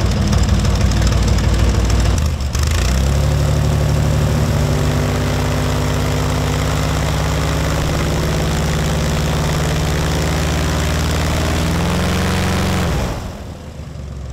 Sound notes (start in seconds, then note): 1.1 engine running; 8.5 continuous engine noise